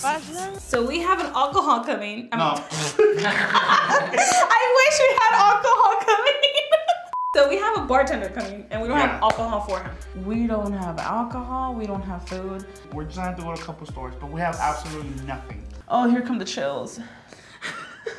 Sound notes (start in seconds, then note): 2.5 both laughing; 7.1 beep